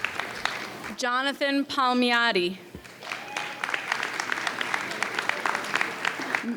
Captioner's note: audience applauds